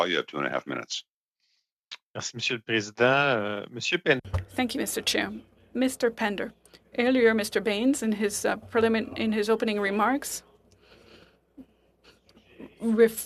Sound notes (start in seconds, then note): 8.4 speaking French